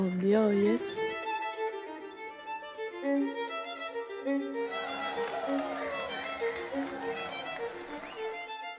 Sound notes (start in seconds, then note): 4.6 cheering